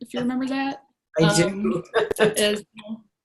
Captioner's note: laughs